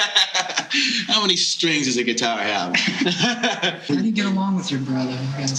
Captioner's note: laughing; laughing